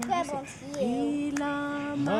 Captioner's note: singing in native language; speaking in native language; singing in native language